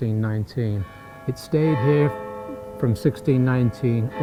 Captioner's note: bells tolling